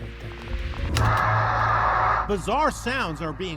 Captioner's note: otherworldly noise echoes